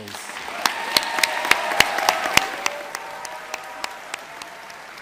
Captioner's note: audience applauding